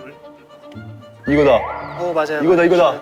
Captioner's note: swoop